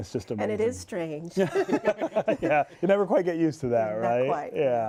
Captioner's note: laughter